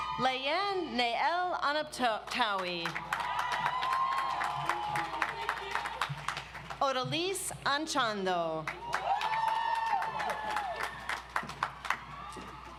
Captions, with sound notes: Layan Nael Anabtawi. (audience applauds) Odalys Anchondo. (audience applauds)